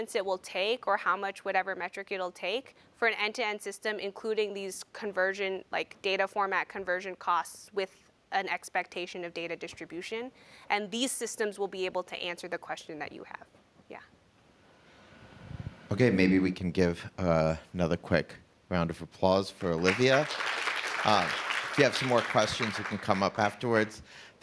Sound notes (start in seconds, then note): 19.7 applause